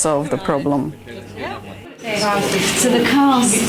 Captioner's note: participant chatter